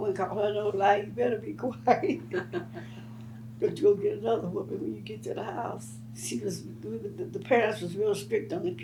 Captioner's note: laughs